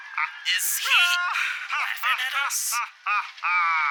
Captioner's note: All-Might laughing through the video